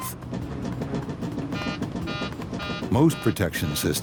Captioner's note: beeping